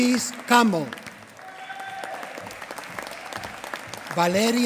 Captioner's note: applause